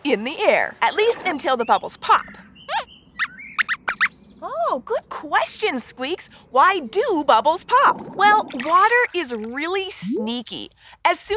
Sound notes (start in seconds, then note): 2.6 squeaks squeaks